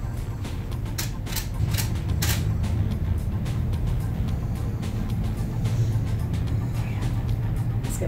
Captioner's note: camera shutter clicking